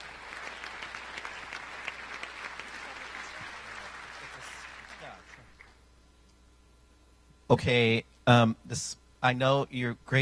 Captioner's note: applause